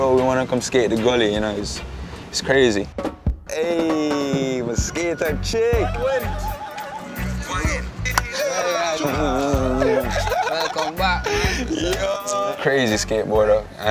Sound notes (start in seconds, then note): 6.0 laughing and chattering